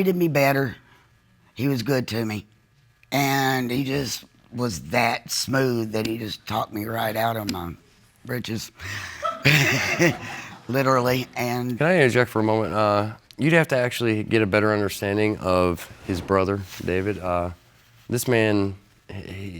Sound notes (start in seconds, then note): 9.2 audience laughs